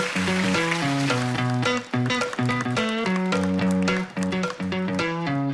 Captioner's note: applause